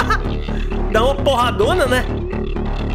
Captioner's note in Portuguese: risos